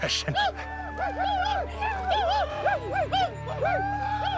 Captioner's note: whooping